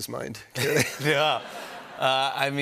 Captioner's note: laughter